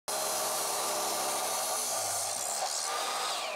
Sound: saw whirring

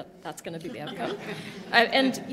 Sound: laughter

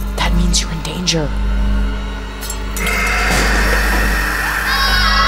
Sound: whooshing; screaming

